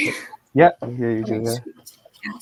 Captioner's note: laughing